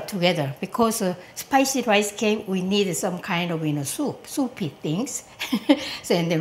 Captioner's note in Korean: 웃음